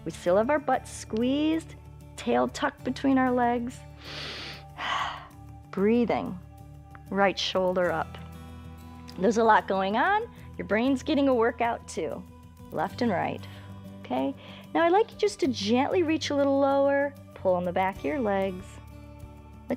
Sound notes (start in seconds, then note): 3.9 inhales and exhales